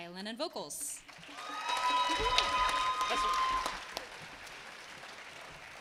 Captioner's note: attendees clapping and cheering